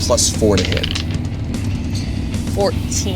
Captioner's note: die rolling